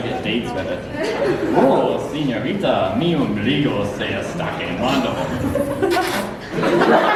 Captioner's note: kissing